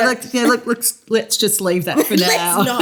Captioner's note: laughter